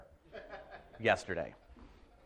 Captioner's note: audience laughing